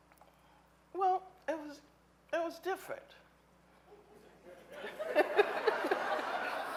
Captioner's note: audience laughing